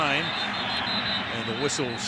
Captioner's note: whistle